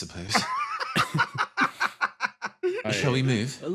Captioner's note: laughs